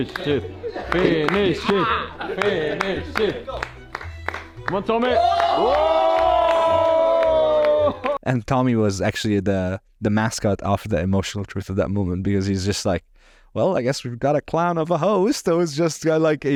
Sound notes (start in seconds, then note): 3.7 playful music; 5.9 all cheering